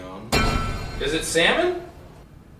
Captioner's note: scary bang